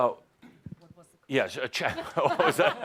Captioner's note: laughs